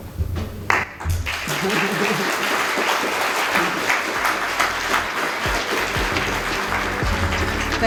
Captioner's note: applause